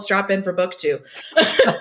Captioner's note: laughs